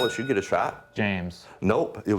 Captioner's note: ding